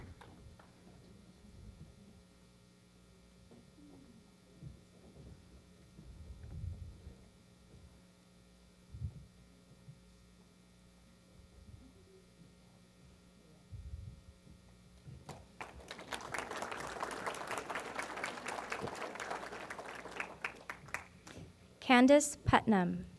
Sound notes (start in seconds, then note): 15.2 applause